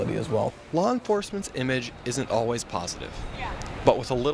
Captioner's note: voiceover